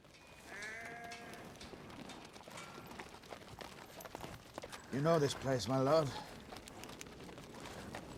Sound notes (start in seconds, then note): 0.4 sheep bleating